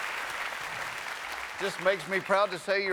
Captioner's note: cheers and applause